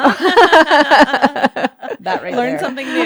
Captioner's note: both laughing